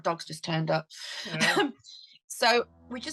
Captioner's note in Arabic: تضحك